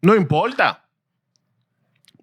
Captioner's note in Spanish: Hablando en idioma extranjero